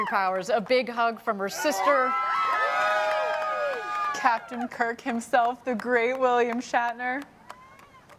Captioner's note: cheering